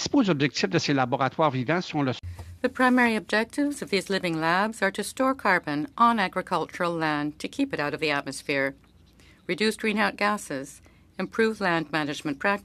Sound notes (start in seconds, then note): 4.5 speaking French